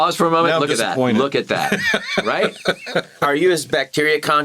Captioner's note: Begley Jr. laughs